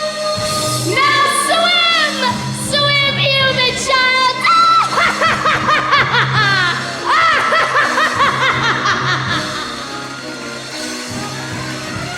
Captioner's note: singing; laughter; screaming